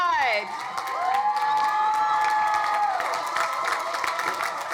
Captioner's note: crowd cheering